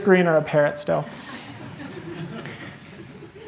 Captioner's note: laughter